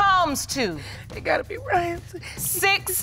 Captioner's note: muttering